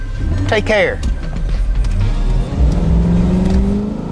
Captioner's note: engine roaring